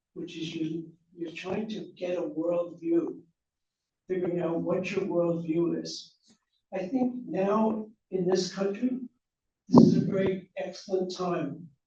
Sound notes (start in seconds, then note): none